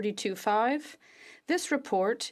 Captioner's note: speaking French